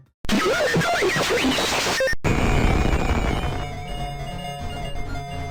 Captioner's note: distorted digital beeping